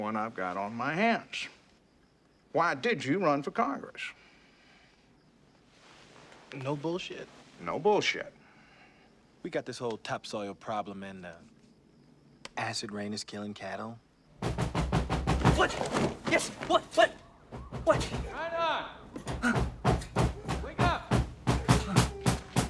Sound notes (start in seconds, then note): 14.4 pounding At Door